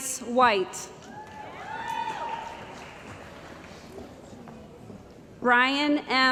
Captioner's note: cheering & Applause